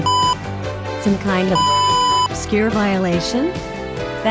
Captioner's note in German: Piep; Piep